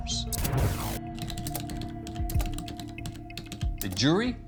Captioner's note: keyboard clacking